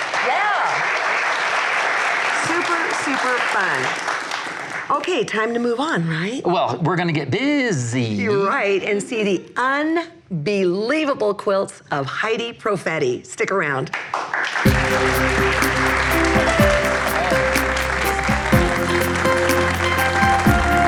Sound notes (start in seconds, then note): 0.0 audience applauds; 14.3 audience applauds; 18.0 upbeat music